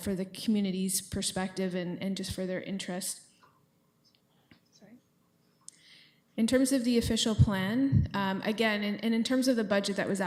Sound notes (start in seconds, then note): 3.9 whispers